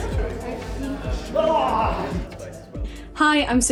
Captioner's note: cries out